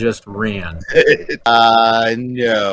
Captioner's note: laughs